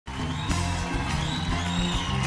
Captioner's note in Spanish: Aplausos y exclamaciones